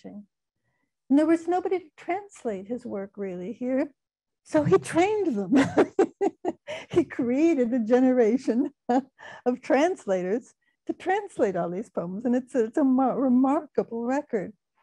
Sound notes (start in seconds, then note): 5.5 laughing